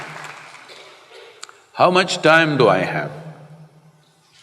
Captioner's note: applause